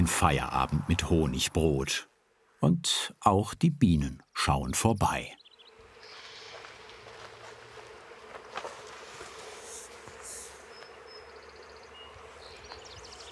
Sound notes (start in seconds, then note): 7.8 humming; 11.8 birds chirping